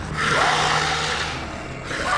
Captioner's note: loud growl; snarls; screams